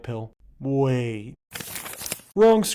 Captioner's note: paper rustling